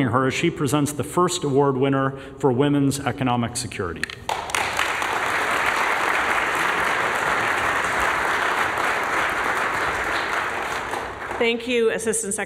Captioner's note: applause